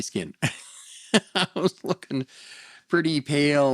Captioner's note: laughs